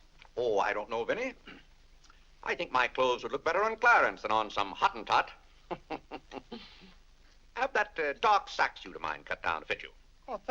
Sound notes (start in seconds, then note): 5.6 chuckles